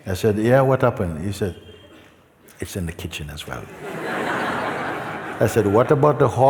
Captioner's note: laughter